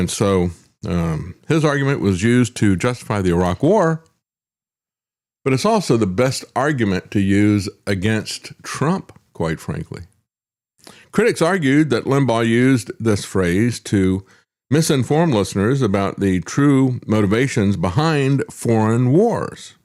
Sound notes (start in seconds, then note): none